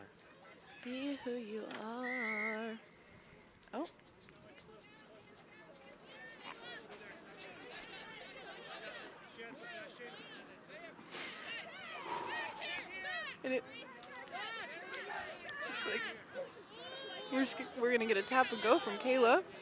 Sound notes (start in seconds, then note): 0.3 singing; 2.0 whistle blows; 12.0 exhales sharply